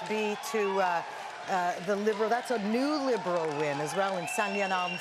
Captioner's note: cheering